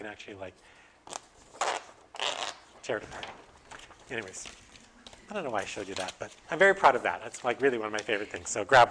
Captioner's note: paper tearing